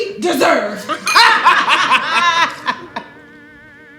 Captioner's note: laughter